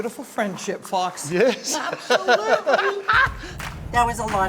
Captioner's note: laughing